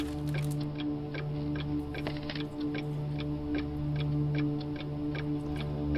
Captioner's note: clock ticking continues